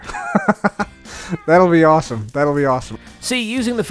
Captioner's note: laughs